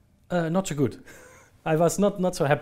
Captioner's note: laughing